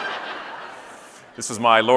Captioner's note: audience laughing